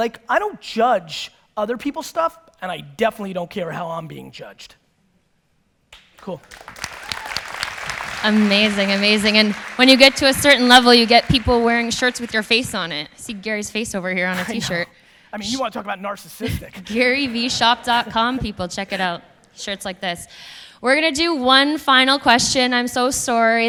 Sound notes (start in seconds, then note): 6.2 audience applause